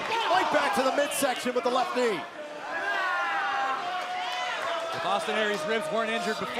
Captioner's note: crowd cheering